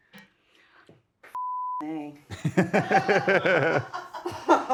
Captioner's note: pair laughs